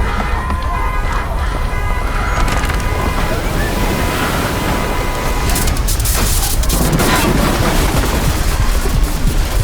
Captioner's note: storm winds roar as people flee, sparks crackle and horns blare